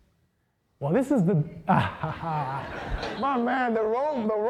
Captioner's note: laughing